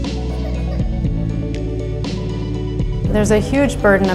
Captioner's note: child coughs